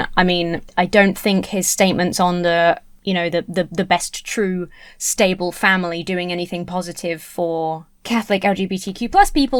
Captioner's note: none